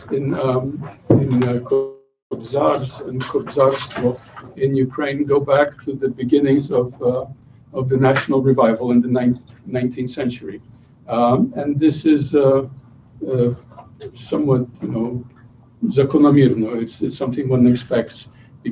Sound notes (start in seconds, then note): 14.1 non-english speech